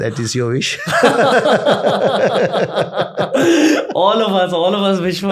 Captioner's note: laughter